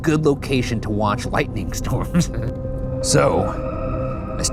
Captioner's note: laughs